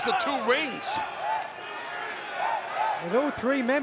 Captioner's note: fans chanting